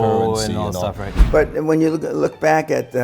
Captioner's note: air whooshing